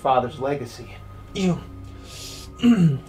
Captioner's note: grunt